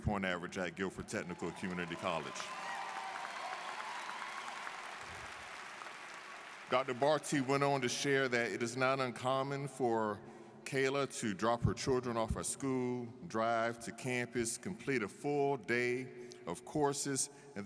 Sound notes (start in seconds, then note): 3.1 students cheering and applauding